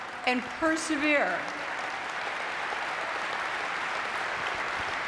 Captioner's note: audience clapping